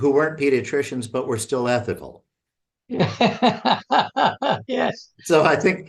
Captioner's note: laughter